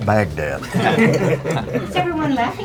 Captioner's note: laughing